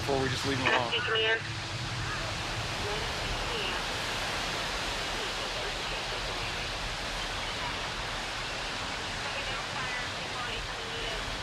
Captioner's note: police radio traffic